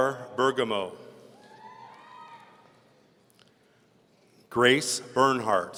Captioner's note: audience cheering